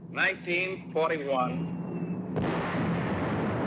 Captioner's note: whistling sound; loud explosion